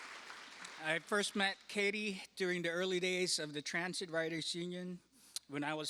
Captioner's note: applause